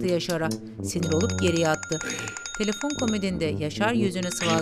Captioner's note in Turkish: Telefon zili sesi